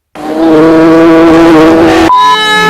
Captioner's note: buzzing of a bee